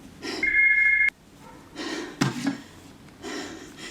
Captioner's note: phone ringing